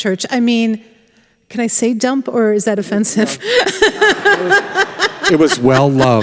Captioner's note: laughs